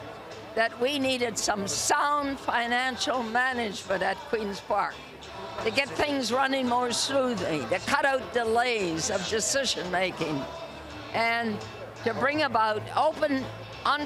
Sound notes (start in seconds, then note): none